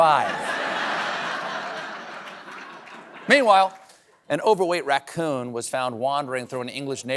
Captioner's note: laughter